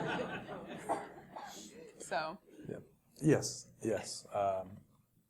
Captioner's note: laugh